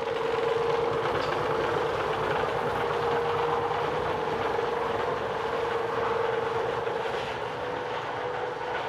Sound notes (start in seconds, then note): 1.1 whirring rattling